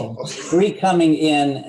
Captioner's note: laughs